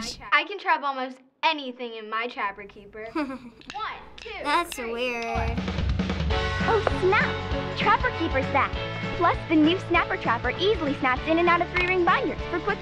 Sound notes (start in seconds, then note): 3.1 chuckling; 4.4 cheerful music